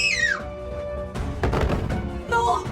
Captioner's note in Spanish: Sonido de cuerpo cayendo al suelo de varios pisos de altura